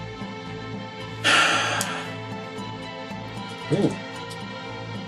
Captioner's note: sighs